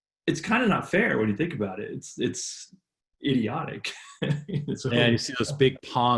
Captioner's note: laughs